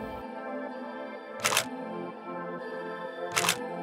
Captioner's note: clicking; upbeat music